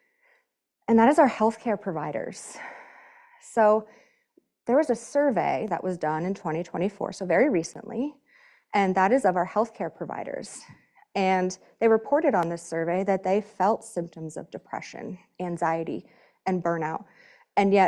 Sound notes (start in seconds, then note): none